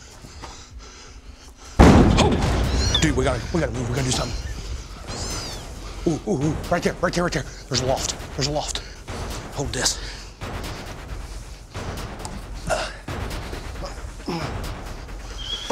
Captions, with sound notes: [LOUD BANG] Whoa! Dude, we got to move. We got to do something. Ooh, right there. Right there. Right there. There's a loft. There's a loft. Hold this.